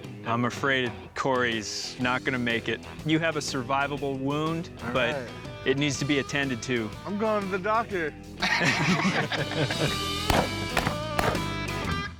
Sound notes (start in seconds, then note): 8.4 laugh; 10.2 gunshots